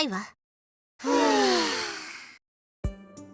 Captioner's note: relieved sighs